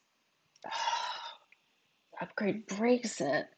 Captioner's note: gasps